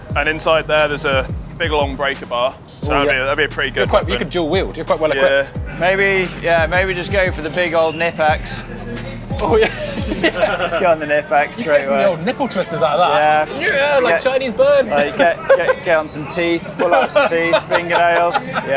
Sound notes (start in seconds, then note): 10.5 laughs; 13.8 groans; 14.9 laughs